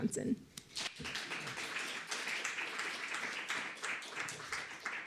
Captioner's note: applause